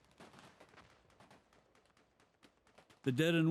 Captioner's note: gunfire